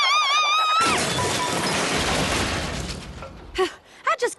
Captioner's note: crash